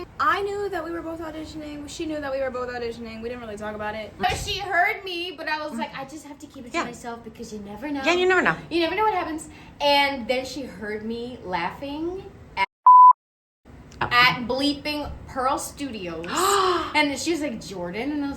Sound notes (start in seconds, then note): 12.8 beep; 16.2 gasps